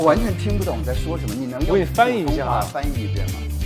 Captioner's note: Mandarin